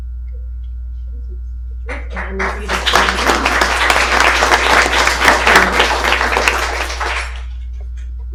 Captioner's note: applause